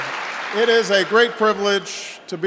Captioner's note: applause